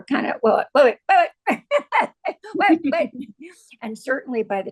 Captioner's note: laughs